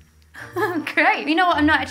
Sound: laughs

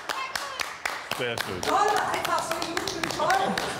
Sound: clap

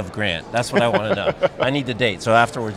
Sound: laughs

